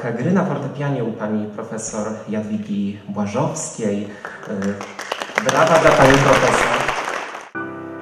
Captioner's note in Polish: aplauz